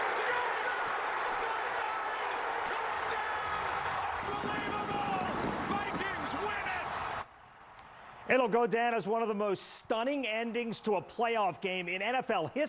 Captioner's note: cheering